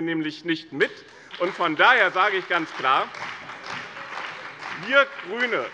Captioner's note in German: Beifall bei dem BÜNDNIS 90/DIE GRÜNEN und der CDU